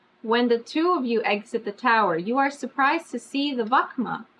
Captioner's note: none